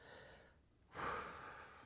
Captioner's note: sighs